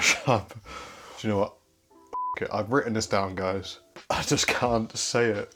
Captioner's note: beep